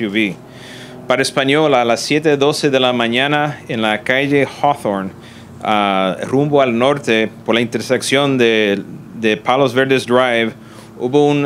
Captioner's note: Spanish